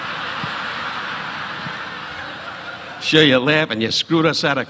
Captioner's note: audience laughing